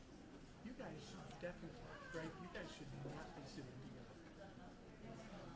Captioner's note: speaking off microphone